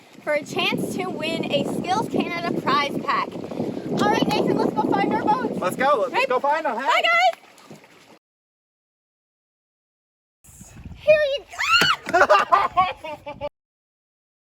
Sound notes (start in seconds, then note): 12.0 laughter